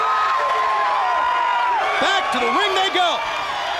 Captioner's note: crowd cheering